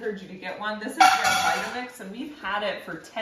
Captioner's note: plastic clanking